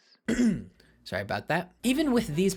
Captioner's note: ahem